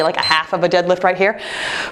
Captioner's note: timer beeps